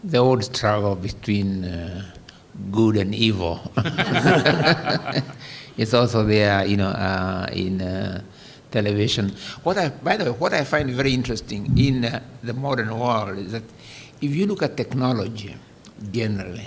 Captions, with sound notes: ROADS TRAVELED BETWEEN GOOD AND EVIL. [ LAUGHTER ] >> IT'S ALSO THERE, YOU KNOW, IN TELEVISION. >> WHAT I-- BY THE WAY, WHAT I FIND VERY INTERESTING IN THE MODERN WORLD IS THAT IF YOU LOOK TECHNOLOGY GENERALLY,